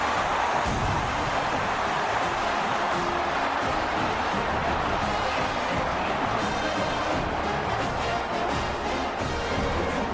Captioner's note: crowd Noises